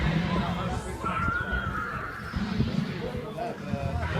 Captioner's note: video game sounds